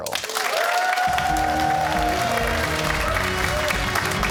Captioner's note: cheers and applause